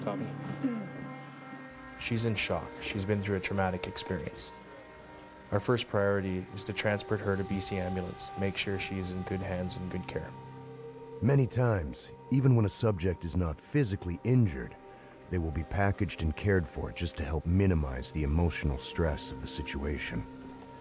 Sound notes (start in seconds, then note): 0.7 voiceover